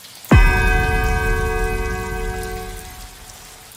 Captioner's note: final tenth bell